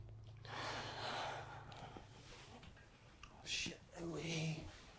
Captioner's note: Ashley sighs